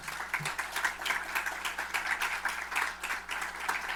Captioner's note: applause